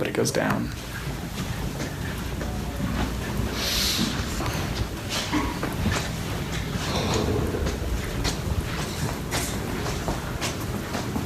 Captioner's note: sounds of walking around